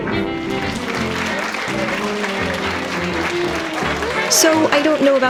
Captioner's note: audience applauding